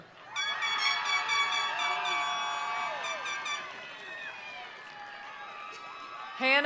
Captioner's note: attendees cheering; attendees applauding